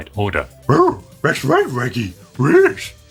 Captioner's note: Scooby voice